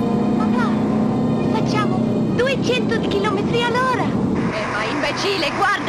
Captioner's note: child speaking in foreign language